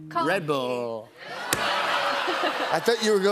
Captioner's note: audience jeers